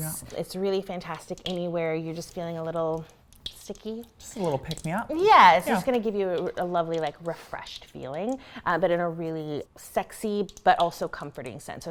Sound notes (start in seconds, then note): 5.3 bath popping